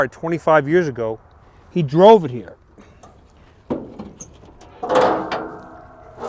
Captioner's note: car hood creaks